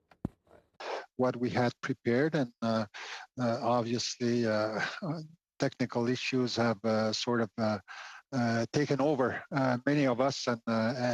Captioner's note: speaking French